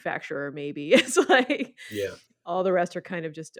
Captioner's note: lady laughing